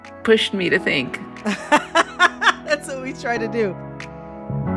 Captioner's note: laughter